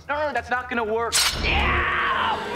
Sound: screaming

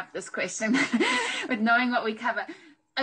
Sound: laughs

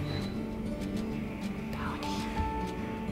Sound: whispering

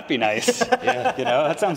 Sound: chuckles

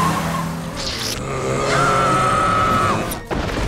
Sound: screams

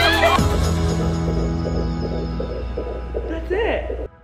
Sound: screaming and cheering; heart beating

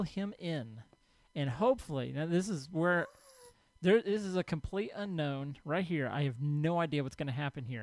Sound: ghast squalls

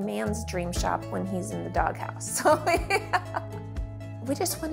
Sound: laughing

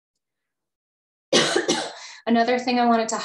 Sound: coughs

